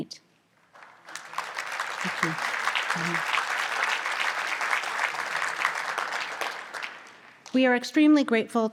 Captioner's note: audience applause